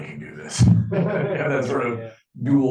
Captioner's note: class laughing